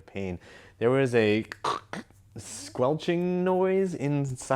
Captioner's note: squelches